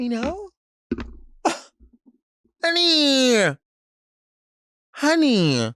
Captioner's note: snickers